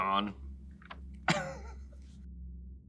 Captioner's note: giggles